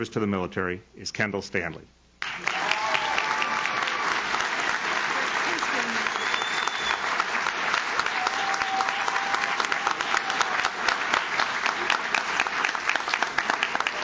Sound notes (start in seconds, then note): 2.6 audience cheers; 2.6 audience claps